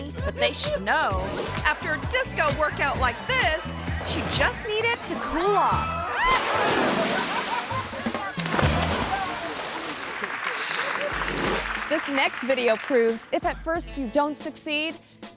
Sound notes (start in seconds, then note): 6.0 grandma splashes; 6.0 grandma yelps; 8.2 drum rolls; 8.2 rescuer splashes; 10.3 crowd applauds; 10.3 screen swooshes